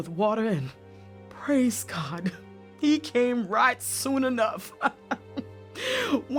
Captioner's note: laughs